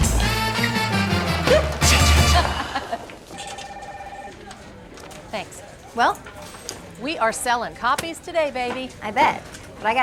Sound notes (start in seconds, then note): 1.4 Maddie laughs; 3.3 phone rings; 3.4 group chattering